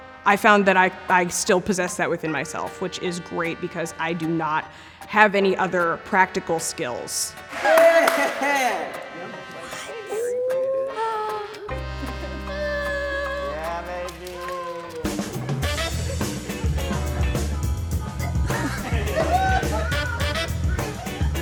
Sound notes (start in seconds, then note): 7.5 group cheering; 15.4 jazz music